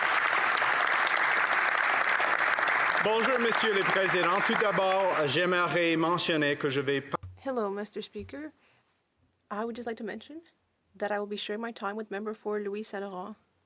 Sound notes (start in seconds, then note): 2.6 some applause; 10.7 speaking French